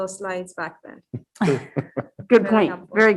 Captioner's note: group chuckling